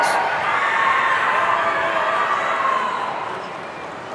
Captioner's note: audience cheering